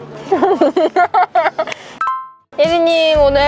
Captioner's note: laughter